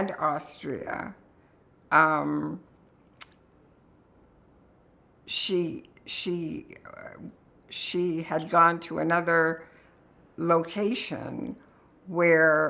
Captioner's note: pauses 6 seconds